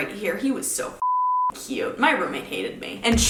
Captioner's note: beep